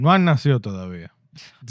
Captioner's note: speaking In Foreign Language